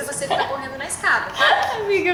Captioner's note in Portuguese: risos